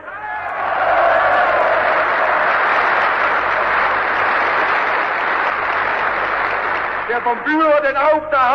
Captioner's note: applause